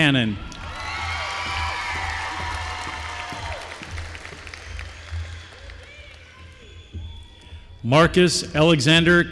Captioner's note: applause